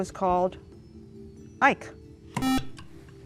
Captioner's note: beep